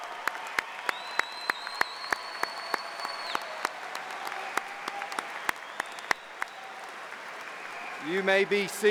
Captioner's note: applause